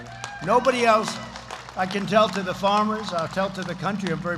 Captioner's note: applause